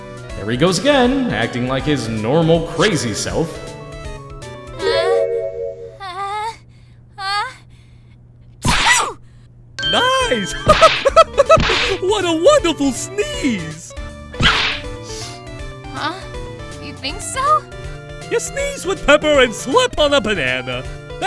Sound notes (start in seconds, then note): 8.6 achoo!; 14.4 achoo!; 15.0 sniff